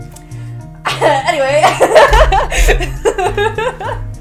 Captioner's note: laughs; laughs more